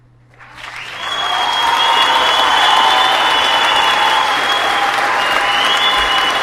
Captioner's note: audience clapping and cheering